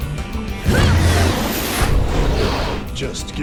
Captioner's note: grunting